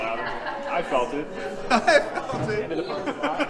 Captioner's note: laughs